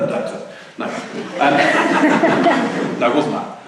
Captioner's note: laughter